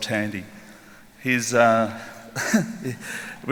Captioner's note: chuckles